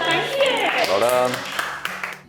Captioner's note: clapping